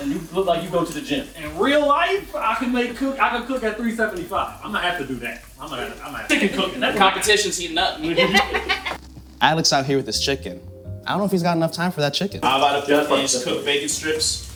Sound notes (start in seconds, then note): 8.0 laughing